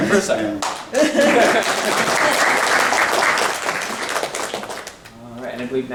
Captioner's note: laughing; clapping